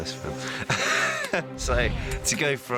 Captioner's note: laughs